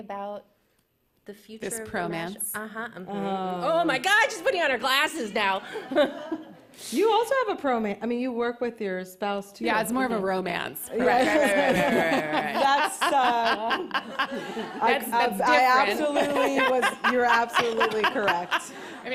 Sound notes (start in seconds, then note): 5.6 laughs; 11.0 laughter